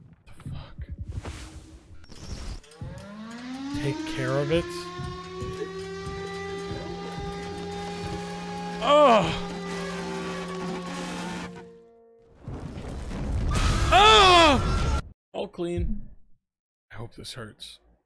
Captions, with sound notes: The fuck? (alarm blares) "Take care of it"? Eugh... Eugh!!! "All clean. I hope this hurts.